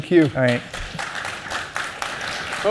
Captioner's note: applause